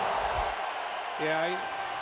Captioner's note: cheering